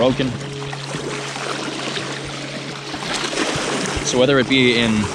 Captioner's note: water flowing